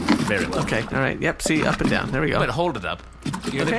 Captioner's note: sloshing noises